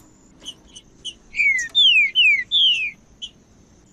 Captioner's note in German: trinca ferro cantando